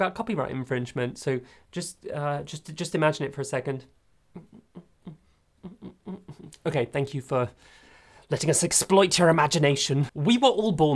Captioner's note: hums